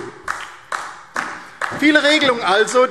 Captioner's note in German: Beifall DIE LINKE